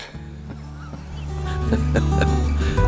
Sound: cuckles

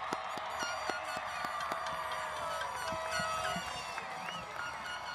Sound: audience cheers; horns and noise makers sound

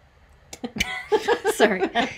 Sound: everybody laughs

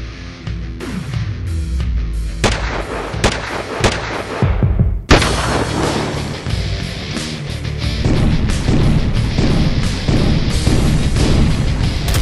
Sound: bang bang bang!

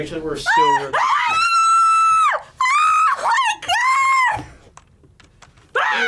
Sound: screams

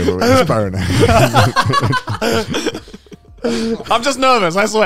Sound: all laughing

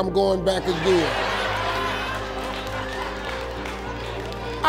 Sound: laughing

